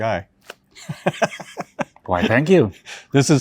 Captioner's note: chuckles